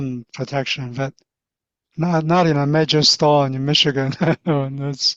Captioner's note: chuckles